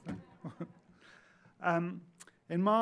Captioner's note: audience laughing; laughs